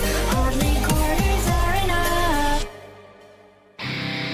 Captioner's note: none